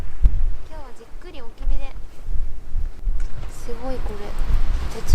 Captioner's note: small fire